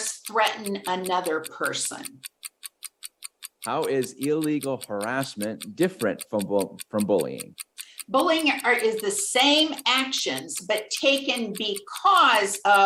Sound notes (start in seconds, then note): 2.1 timer continues ticking